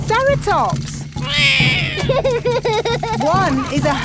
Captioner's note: laughs; roars